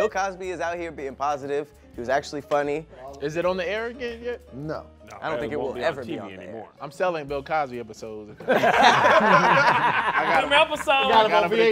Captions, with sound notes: - Bill Cosby is out here being positive, he was actually funny. - Is it on the air again yet? - I don't think it will ever be on the air. - I'm selling Bill Cosby episodes. (laughing) - I got a VHS.